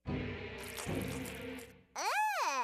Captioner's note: rustling